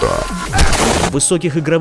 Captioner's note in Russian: эпичная музыка; взрыв